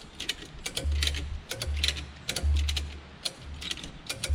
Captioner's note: strap clicking